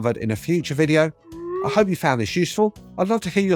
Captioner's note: screen beeping